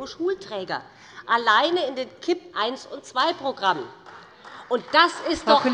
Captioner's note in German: Beifall bei dem BÜNDNIS 90/DIE GRÜNEN und der CDU